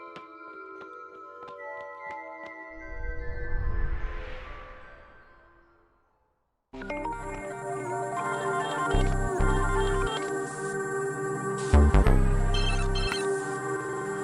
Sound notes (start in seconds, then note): none